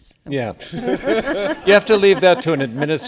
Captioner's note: laughter